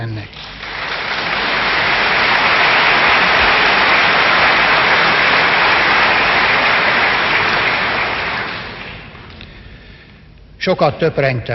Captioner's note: applause